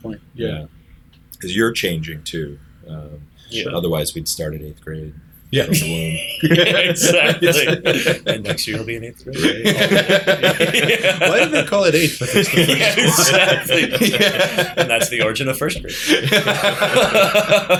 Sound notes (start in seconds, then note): 5.6 laughter; 12.4 laughter